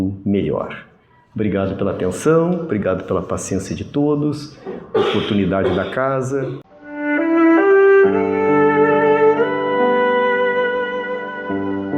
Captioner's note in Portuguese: limpando a garganta